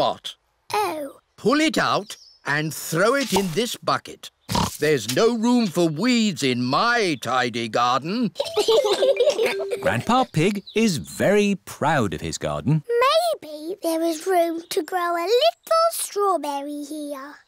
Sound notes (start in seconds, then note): 4.5 oinks; 8.4 both laugh